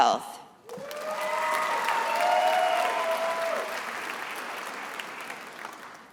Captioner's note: attendees applauding and cheering